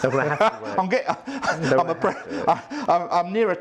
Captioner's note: laughs